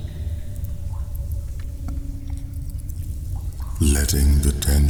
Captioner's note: cave noises